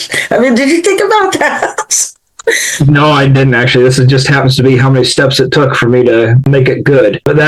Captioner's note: laughs